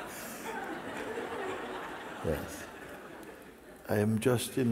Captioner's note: laughter